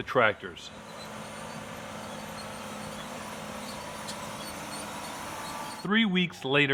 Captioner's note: tractor sounds